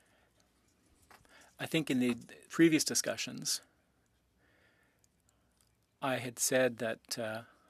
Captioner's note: speaking French